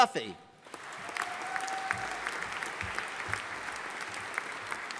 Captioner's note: audience applauding